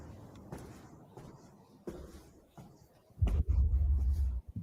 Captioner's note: footsteps approaching